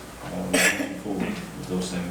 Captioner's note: coughing drowns out speaking